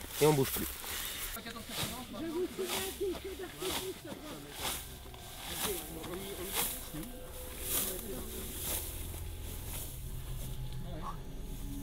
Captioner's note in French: discussions et bruit du blé qu'on écrase